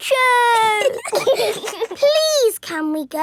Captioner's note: giggling